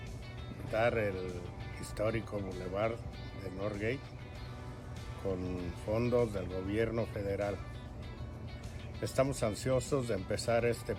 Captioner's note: speaking spanish